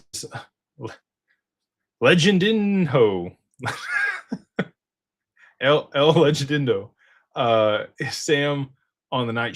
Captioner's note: laughter